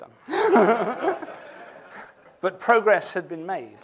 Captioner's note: laughter